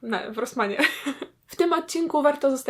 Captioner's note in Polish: śmiech